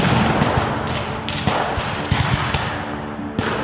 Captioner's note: guns fire